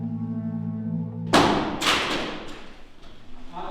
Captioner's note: lamp falls